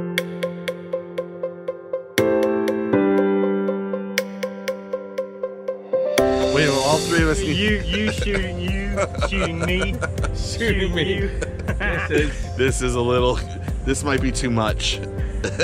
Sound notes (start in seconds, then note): 11.9 laughing; 15.4 laughing